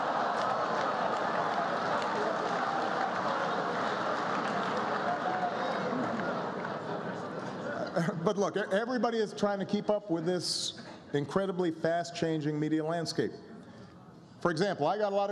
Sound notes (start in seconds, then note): 0.7 laughter